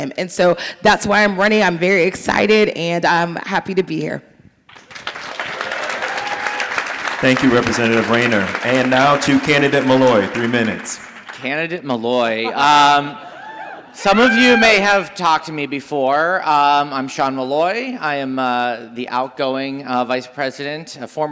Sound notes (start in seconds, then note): 4.7 audience applauding